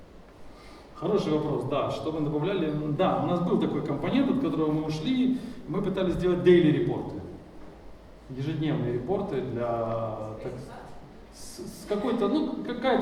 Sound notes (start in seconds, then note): 1.1 speaking in foreign language